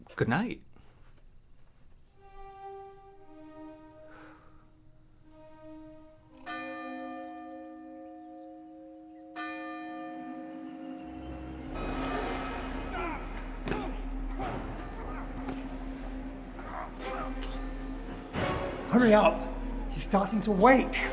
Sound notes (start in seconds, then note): 6.5 church bell rings; 10.5 intense music